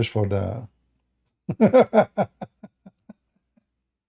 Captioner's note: Ketawa